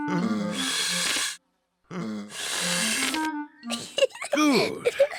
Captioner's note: blowing deeply; giggles